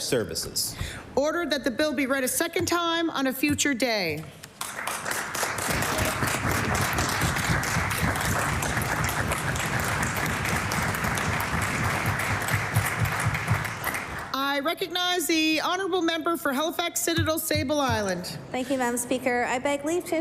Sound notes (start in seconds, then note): 7.4 applause